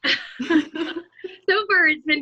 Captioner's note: chuckling